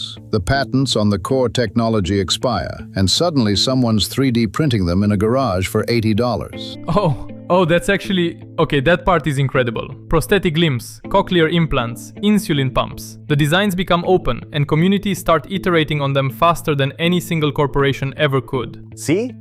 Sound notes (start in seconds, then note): 7.5 excited; 7.9 stammers